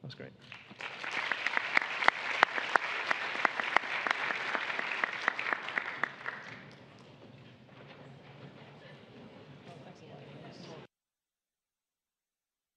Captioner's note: applause